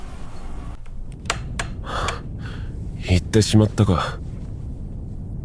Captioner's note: sigh